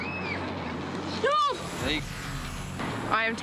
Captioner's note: yells